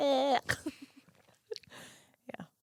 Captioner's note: giggling